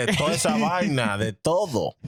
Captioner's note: speaking In Foreign Language